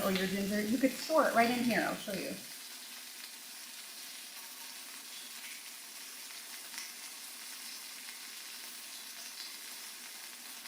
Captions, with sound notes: or your ginger, you could sort it right in here. I'll show you. (chicken sizzling)